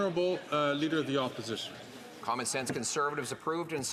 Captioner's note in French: voix de l'interprète